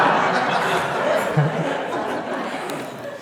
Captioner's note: laughter